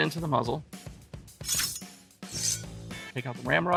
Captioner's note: metal clashing